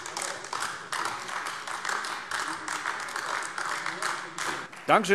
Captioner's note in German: Beifall AfD